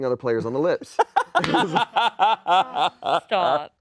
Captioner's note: laughs